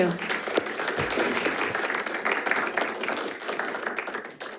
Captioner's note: audience applauding